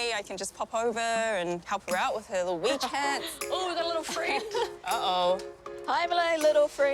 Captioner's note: laughs